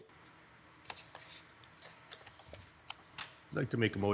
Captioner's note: paper crinkles